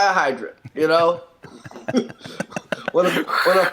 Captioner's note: both laugh